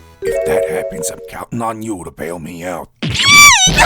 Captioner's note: whispering